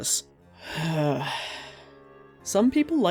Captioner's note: deep breath